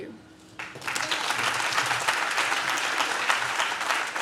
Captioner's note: audience claps